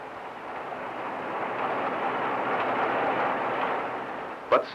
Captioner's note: soft rattling